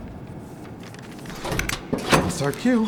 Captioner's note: machinery clicks